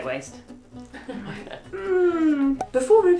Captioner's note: both laughing